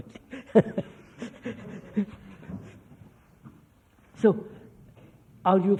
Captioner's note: laughs